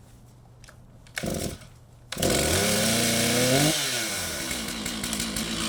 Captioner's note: chainsaw screeching